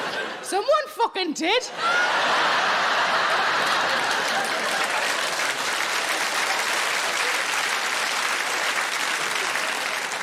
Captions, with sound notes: Someone fucking did! (audience laughing and applauding)